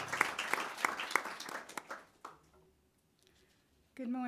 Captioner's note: audience clapping